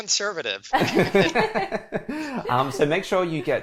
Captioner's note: laughs